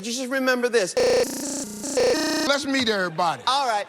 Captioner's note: beeps and boops rhythmically